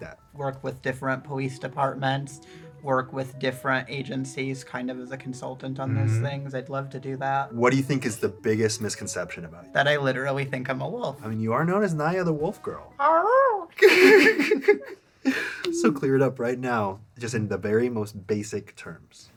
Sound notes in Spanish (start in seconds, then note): 13.0 aullidos